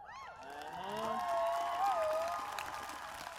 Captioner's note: cheers, applause